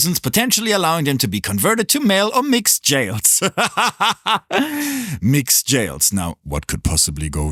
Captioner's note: laughs